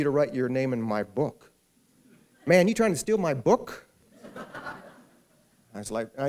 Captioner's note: laughter